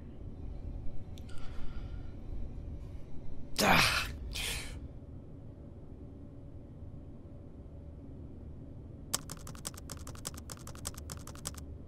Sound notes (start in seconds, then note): 3.6 BEN grunts